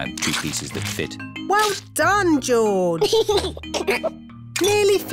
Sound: giggles

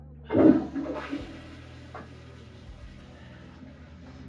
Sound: narrator gasping; toilet flushing

